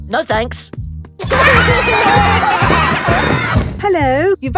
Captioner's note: laughter